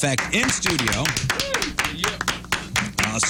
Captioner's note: audience Clapping